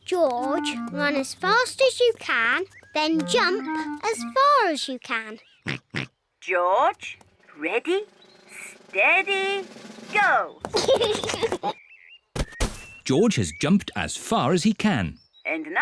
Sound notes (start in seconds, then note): 6.0 snorts; 10.6 laughs